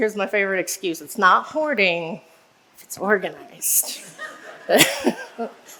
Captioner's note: laughs